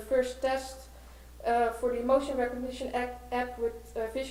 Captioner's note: none